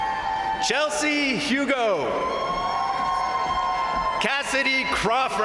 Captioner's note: crowd cheering